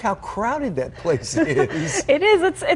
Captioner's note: laughter